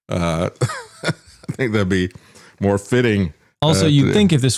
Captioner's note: laughs